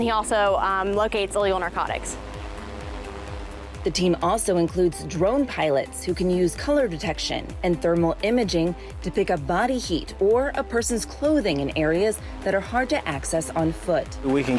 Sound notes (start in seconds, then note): 2.8 drone revving